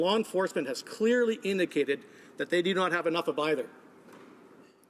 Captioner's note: none